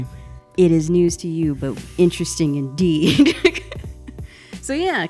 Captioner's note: laughs